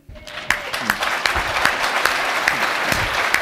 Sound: applause

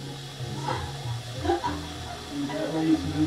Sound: rires

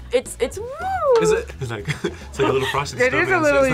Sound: laughs

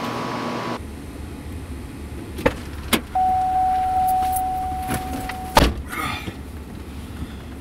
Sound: car noises; sighs; car door opens and closes

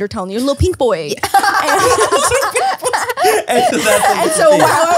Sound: everyone laughs

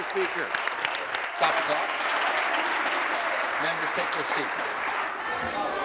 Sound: applause

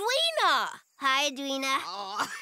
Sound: giggling

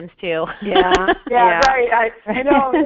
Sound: voiceover

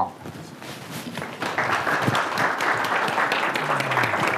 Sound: audience applauding

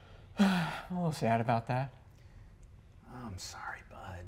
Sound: sighs dejectedly

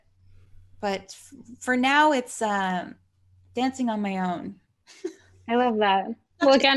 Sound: laughs

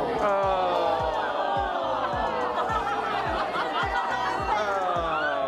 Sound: audience groaning, laughing

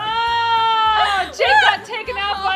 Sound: groans

